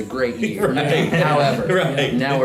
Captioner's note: everyone laughs